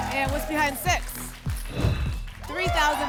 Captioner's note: whoosh